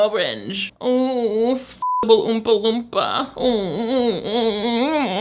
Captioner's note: moaning